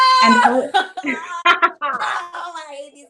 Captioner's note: laughs